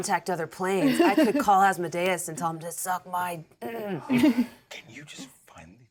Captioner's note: clears throat